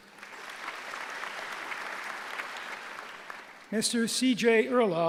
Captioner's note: applause